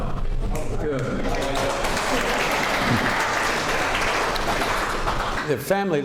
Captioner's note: applause